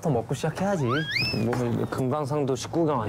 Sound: fumbling

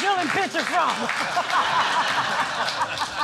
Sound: laughter

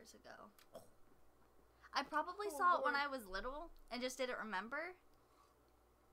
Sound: makes a sound of pain for my uncultured soul

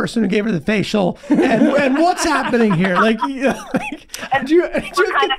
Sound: Kaitlin chuckling

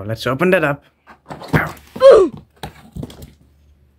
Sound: oof

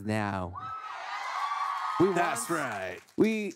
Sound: cheering

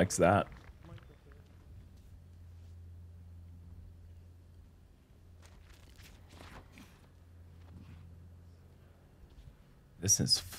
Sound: silence

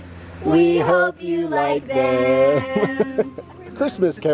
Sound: giggles

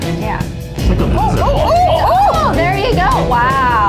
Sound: all exclaiming

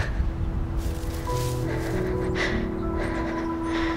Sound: grass rustles; deep breaths

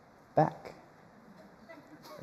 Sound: laughter

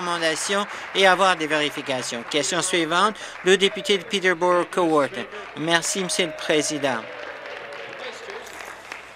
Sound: some Applause

